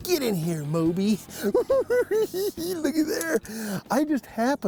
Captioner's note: giggling